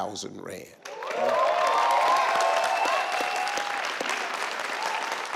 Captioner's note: audience clapping